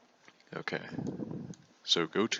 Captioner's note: vocalic filler